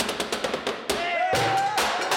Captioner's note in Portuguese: todos gritam